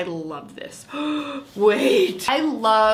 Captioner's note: gasps